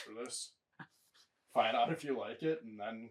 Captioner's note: chuckling